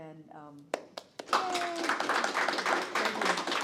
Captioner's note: applause